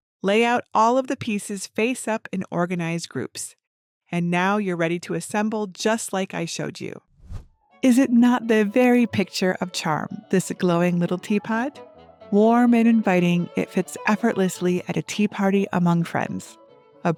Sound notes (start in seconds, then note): 7.2 transition whooshes